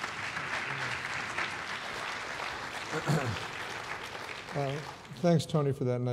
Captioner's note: applause